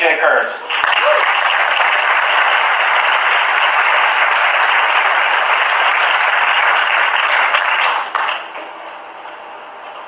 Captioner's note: applause